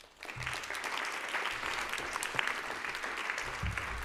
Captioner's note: audience claps